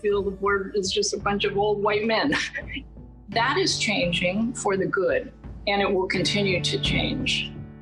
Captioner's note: laughs